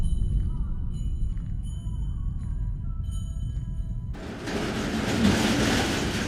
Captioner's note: bells jingling